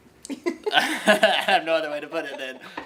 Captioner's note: chuckling